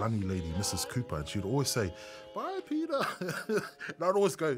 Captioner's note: chuckles